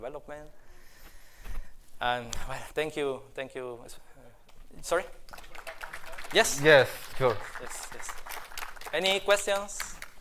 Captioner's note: applause